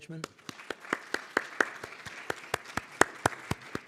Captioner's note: applause